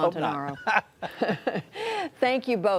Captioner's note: laughter